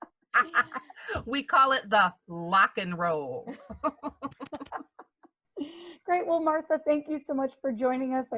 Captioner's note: laughter